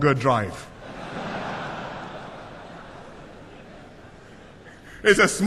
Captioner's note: laughter